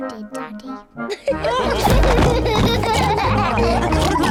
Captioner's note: all laugh